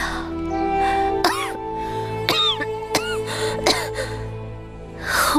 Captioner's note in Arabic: سعال